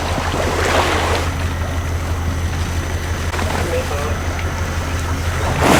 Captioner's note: sounds of cranes and water flushing